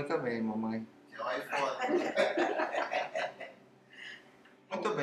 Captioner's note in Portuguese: risos